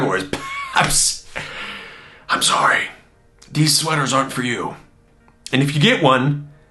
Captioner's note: laughing